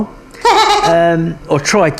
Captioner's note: laughing